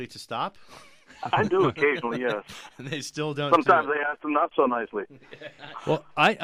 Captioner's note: both laugh; laughs